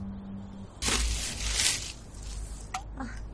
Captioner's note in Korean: 부시럭, 비닐봉투 소리